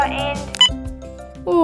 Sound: click!

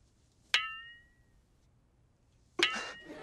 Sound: dings; dings

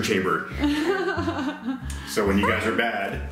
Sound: laughs

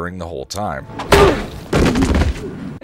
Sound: whack

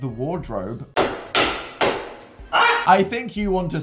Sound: shouting; banging

